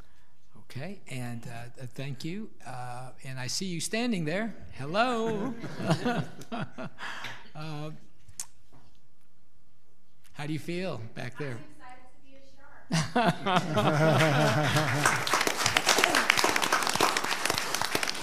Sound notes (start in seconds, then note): 5.2 all laughing; 13.0 audience laughing and applauding